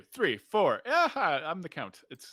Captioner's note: laughs